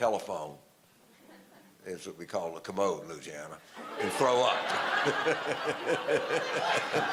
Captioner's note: audience laughter